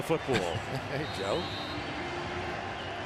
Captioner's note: laughs